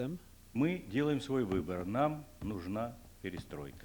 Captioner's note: non-english speech